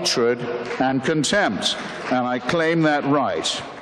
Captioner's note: applause